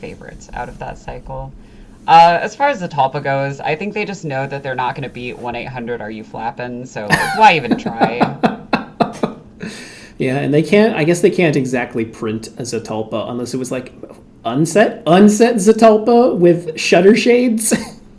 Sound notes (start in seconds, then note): 7.1 laughs; 13.9 sigh